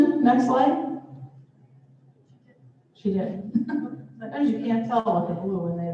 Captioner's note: laughter